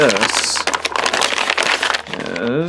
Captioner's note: package rustling